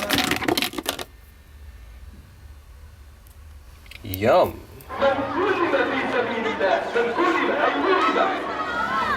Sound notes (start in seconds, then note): 4.4 non-english speech